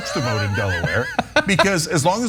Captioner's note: laugh